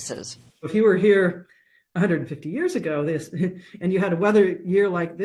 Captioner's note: chuckles